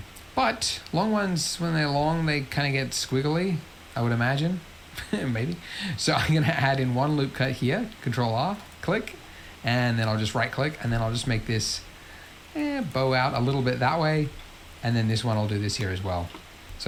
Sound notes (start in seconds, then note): 5.0 laughs